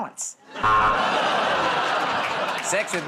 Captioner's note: buzzer